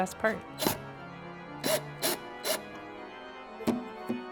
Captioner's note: electrical drill whirring; thumb piano playing